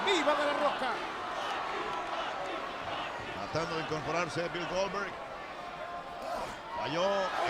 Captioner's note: applause